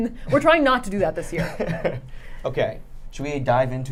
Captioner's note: laughs